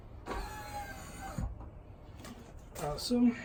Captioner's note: motor whirring